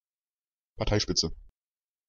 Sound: fast Pronunciation

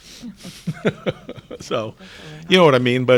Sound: all laughing

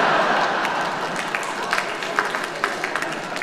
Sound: laughter

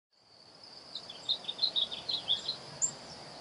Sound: birds chirping

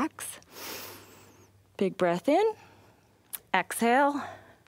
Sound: inhales

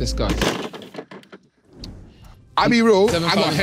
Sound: phone slamming

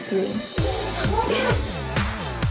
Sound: laughs

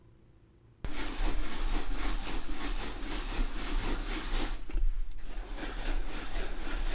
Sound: kind of sawing sound

